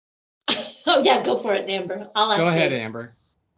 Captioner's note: laughing